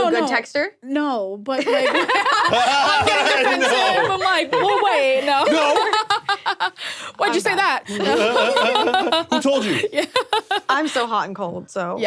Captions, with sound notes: Are you a good texter? - No, but like- (both laughing) - I'm like, "We'll wait." - No. - Why'd you say that? - Who told you? - Yeah. (laughs) - I'm so hot and cold, so.